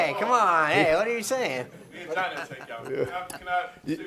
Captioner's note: laughter